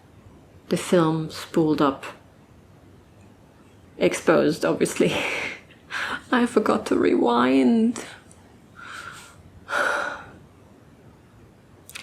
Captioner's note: sighs